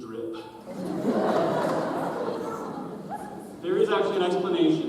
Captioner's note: audience chuckles